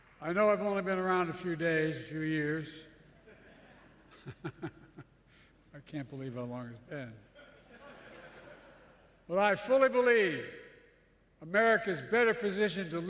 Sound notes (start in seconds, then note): 0.0 applause; 3.1 laughter; 7.3 laughter